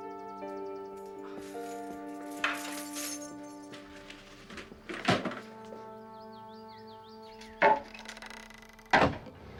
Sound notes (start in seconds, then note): 3.1 keys jingling; 6.4 suspenseful music